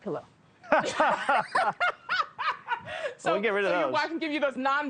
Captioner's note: both laugh